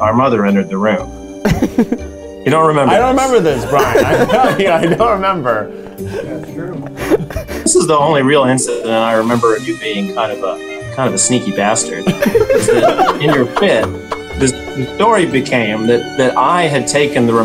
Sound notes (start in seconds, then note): 3.3 laughing; 12.0 laughing